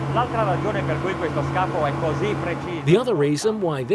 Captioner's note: speaking in foreign language